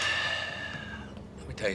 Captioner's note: sighs